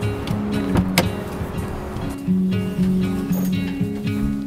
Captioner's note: car door clicks